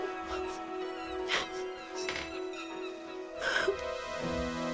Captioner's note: dramatic music; Margaret crying; dramatic music